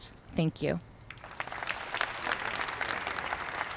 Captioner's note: applause